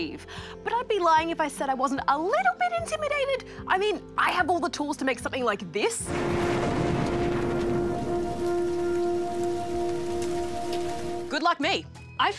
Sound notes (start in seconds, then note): 6.0 thunder rumbles, rain patters; 7.9 moody electronic music